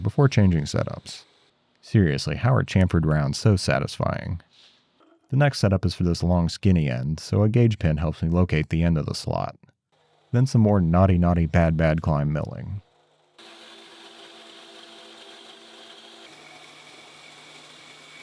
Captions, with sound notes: before changing setups. Seriously, how are chamfered rounds so satisfying? The next setup is for this long, skinny end, so a gauge pin helps me locate the end of the slot. Then some more naughty, naughty, bad, bad climb milling. (machine whirring)